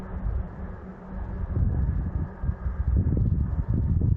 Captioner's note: wind